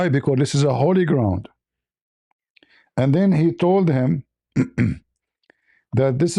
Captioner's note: clears throat